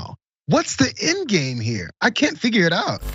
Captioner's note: laugh